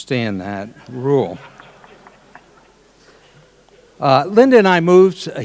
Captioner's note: audience laughing